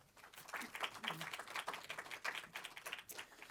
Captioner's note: applause